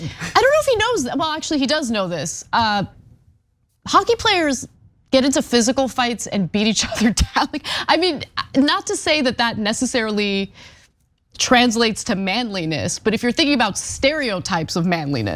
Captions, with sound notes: I don't know if he knows, well, actually, he does know this. Hockey players get into physical fights and beat each other [LAUGH]. Not to say that that necessarily translates to manliness, but if you're thinking about stereotypes of manliness,